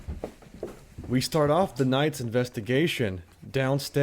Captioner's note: voiceover